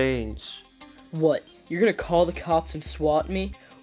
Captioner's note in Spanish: Voz a través del pinganillo